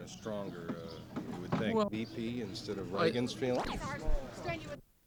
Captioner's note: camera noise